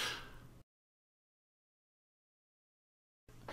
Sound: silence

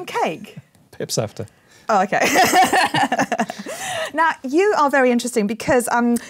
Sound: laughs

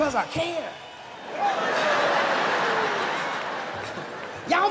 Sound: laughter

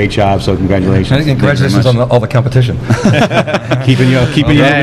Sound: laughs

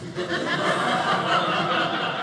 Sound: audience laughing

